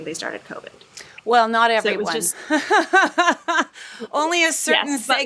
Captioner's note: laughs